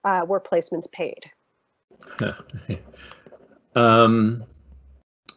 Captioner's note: chuckling